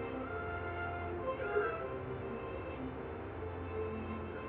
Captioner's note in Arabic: صوت البوق